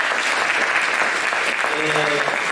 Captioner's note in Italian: Applauso